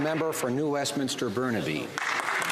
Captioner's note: some Applause